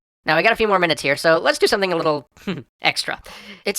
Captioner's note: snicker